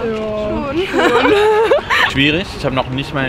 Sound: laughing

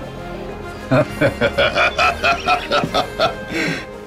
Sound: laughs enthusiastically

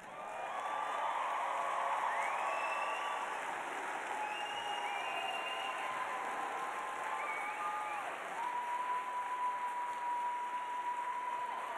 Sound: cheers and applause

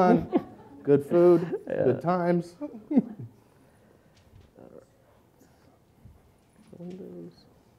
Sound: audience laughs quietly; laughs

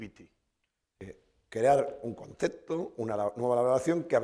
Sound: speaking spanish

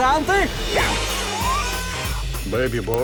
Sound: grunts, cries

